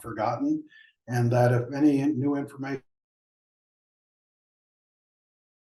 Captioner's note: audio cuts off